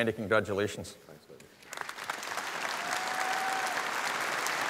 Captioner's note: audience applause